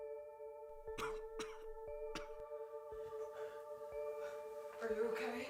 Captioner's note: Grayson coughing